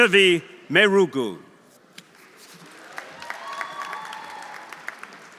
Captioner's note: audience applauding